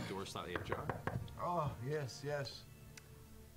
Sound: knocking

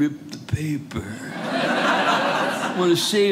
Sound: audience laughing

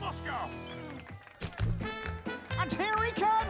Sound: applause and music

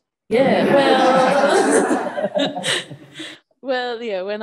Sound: audience laughs

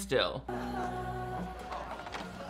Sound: gentle music begins; cafeteria sounds

